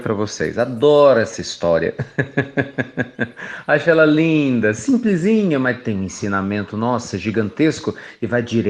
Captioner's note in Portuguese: Risos